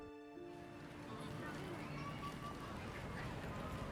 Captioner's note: kids chattering